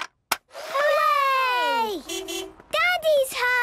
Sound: distant beeping

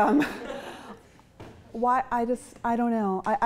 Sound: chuckling

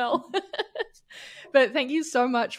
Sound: chuckles

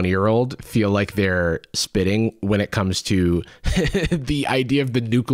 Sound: laughs

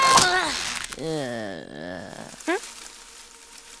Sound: groaning

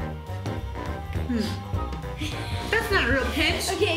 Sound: giggles

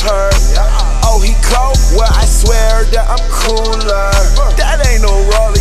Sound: brr

